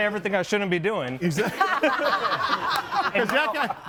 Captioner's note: group laughs